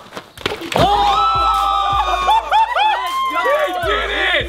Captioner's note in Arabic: الكل يصرخ